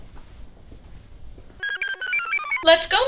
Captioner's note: computer chirps